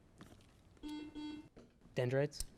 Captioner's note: buzzer buzzes